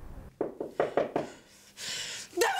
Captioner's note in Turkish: Kapı tıklanır